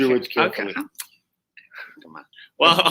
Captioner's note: kisses teeth